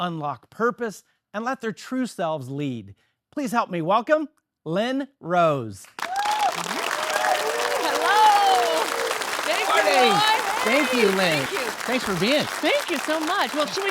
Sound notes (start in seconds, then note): 5.9 audience applauding; 8.6 audience yelling